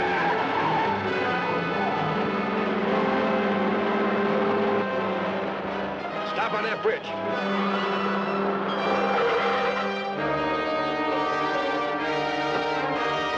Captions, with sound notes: (tires screech) (dramatic music) - Stop on that bridge! (dramatic music) (tires screech)